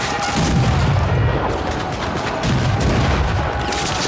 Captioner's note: cannons blasting